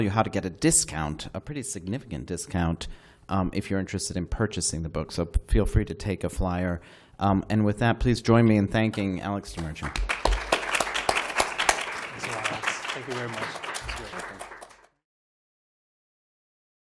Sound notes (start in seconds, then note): 9.5 applause